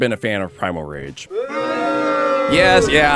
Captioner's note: crowd booing sound